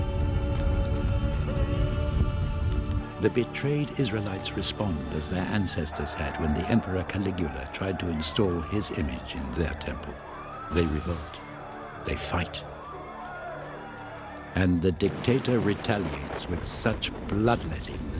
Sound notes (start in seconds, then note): 6.9 crowd shouting; 14.6 gentle music